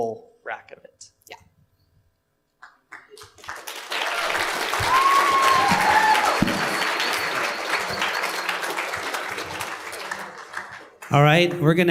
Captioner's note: applause